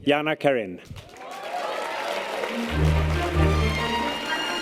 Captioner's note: audience applause and cheers; string orchestral music